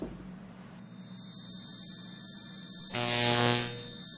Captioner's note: "ringing in ears" sound begins; electric shorting sounds